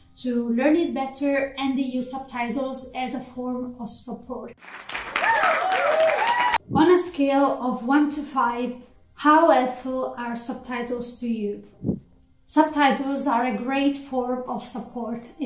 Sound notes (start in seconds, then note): 4.6 applause